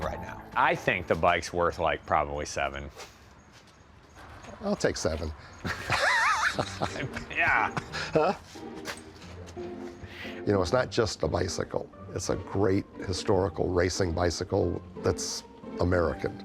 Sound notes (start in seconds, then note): 5.6 both laugh; 10.1 pat